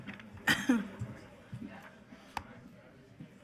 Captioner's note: coughing